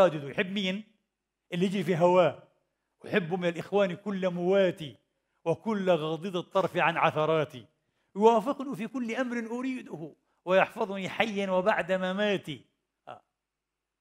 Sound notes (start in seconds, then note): 3.3 reciting part of an Arabic poem